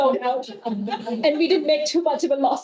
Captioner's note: audience laughing